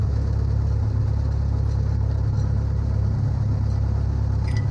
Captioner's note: engine humming